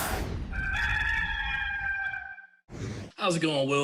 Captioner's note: rooster crowing